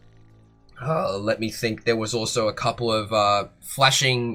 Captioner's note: groan